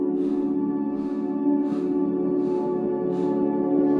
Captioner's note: deep breathing